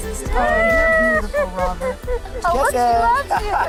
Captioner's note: laughing